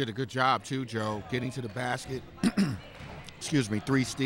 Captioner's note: clears throat